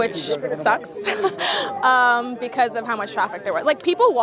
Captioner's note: laughs